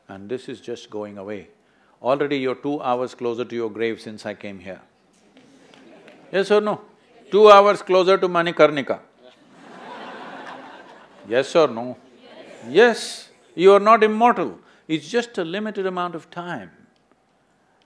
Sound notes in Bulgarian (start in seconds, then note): 5.3 смях в публиката; 9.2 смях